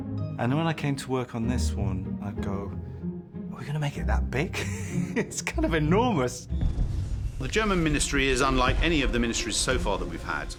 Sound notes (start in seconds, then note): 4.5 laughing